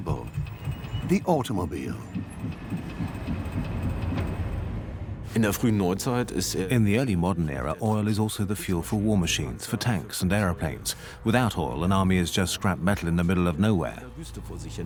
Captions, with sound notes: the automobile. (speaks German) (dubbed in English) In the mode, oil is the fuel for war machine. Without oil, an army is just scrap metal in the middle of no.